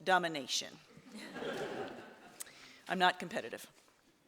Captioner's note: audience laughs